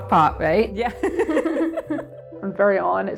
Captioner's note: laughter